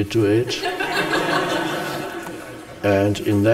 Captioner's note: audience laughs